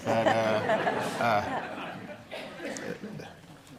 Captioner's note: audience laughing